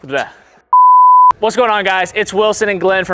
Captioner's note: beep